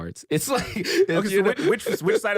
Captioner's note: laughs